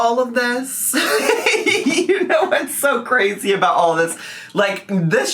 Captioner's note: laughs